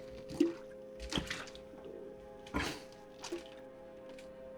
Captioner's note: gulping alcohol